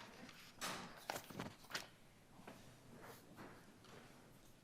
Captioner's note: paper shuffling